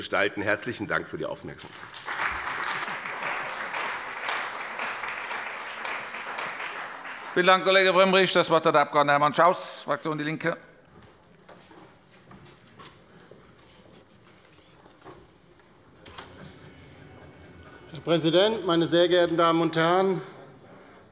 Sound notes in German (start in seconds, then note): 1.6 Beifall bei dem BÜNDNIS 90/DIE GRÜNEN und der CDU